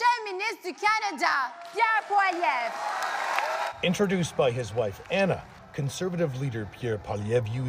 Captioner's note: speaking French